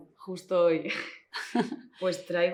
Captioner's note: giggles